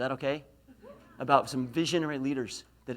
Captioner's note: laughs